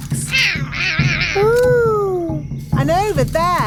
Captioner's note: roaring